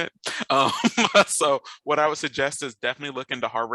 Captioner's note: laughs